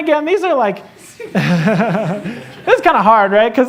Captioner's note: laughter